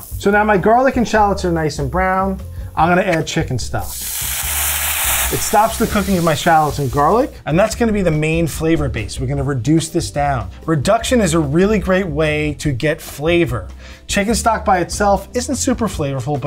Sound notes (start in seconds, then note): 4.3 oil sizzling